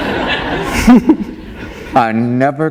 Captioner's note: laughter